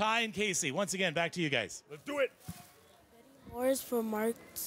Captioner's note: none